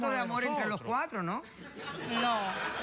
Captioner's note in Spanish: risas